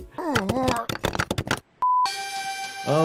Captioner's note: groaning; intense music